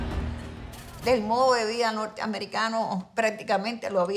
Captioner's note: speaking in Spanish